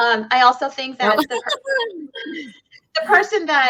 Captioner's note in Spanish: giggles